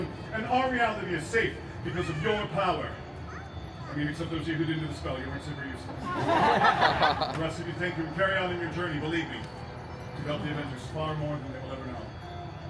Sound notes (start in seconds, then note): 5.9 guests laughing